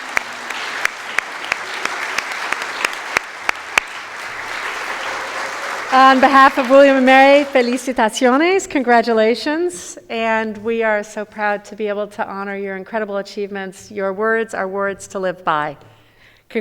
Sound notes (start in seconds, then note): 7.4 speaking in foreign language